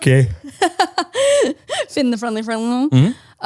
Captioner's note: laughs